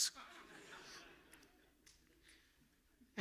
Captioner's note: audience laughing